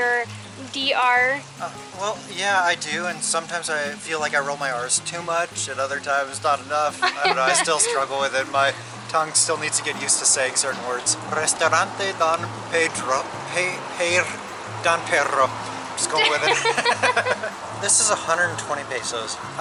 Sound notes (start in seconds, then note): 12.9 struggling to pronounce the name; 16.0 laughter